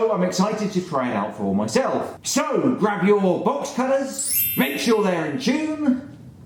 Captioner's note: ping!